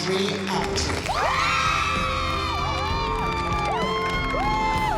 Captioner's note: applause and cheering